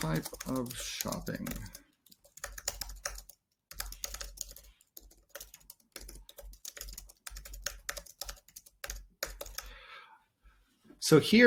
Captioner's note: typing